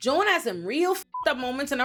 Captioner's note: beep